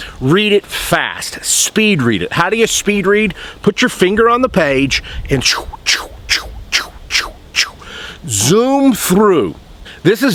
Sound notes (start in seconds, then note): 5.4 emulates whooshing